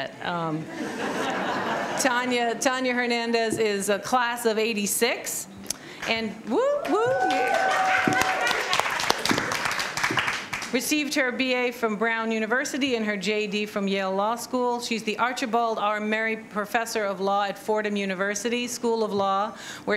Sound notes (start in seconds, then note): 0.7 laughter; 6.8 applause